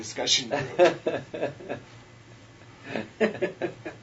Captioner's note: laughter